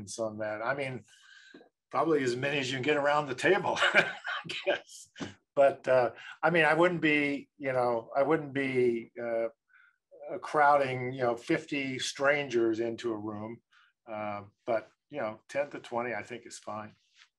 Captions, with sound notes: I mean, probably as many as you can get around the table, (laughs) I guess. But I mean, I wouldn't be crowding 50 strangers into a room, but 10 to 20 I think is fine.